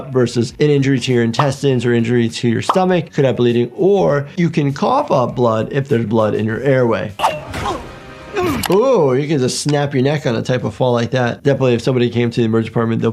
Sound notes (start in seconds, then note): 8.3 Invincible groaning